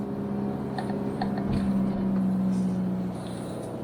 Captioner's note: sound of van engine